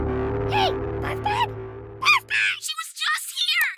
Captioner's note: none